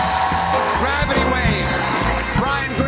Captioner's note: cheers and applause